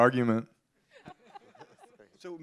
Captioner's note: laughter